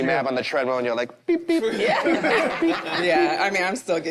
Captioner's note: group laughs